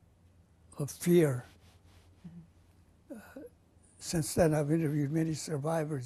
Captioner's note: pauses for 3 seconds